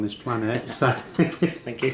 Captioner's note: laughs